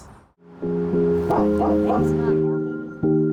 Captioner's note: barking